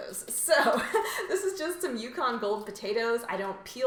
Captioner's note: laughs